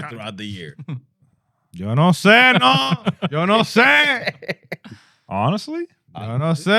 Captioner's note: laughter